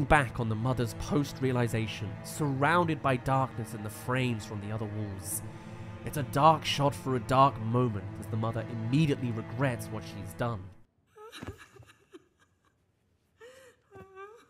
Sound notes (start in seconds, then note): 11.1 sobbing